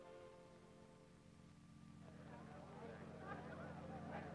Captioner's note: indistinct conversations